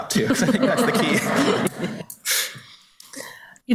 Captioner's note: everybody laughs